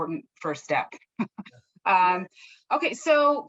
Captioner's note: laughs